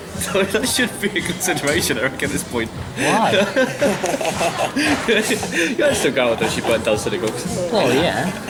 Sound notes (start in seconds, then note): 3.0 Alex and Peter laugh